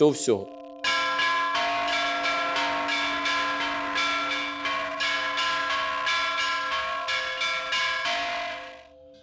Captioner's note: church bells